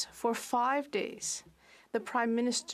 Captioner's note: speaking French